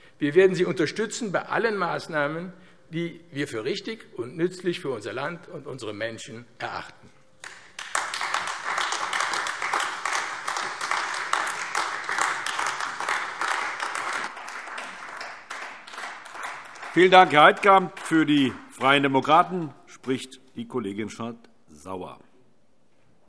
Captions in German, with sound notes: Wir werden Sie bei allen Maßnahmen unterstützen, die wir für richtig und nützlich für unser Land und die darin lebenden Menschen erachten. [Beifall AfD] Vielen Dank, Herr Heidkamp. - Für die Freien Demokraten spricht die Kollegin Schardt-Sauer.